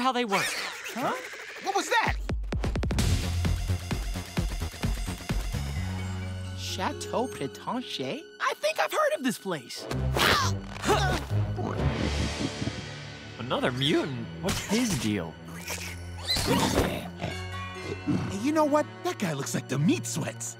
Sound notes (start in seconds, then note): 0.4 screeching; 11.0 snorting; 16.2 screeching